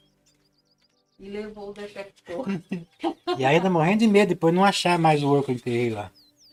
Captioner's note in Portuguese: risadas